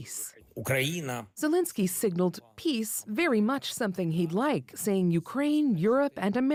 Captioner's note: speaking alternate language